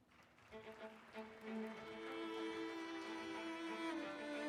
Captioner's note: audience applauding